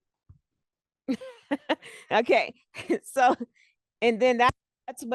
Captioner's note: laughs